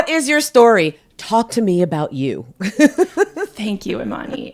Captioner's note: laughs